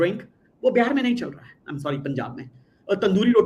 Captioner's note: non-english speech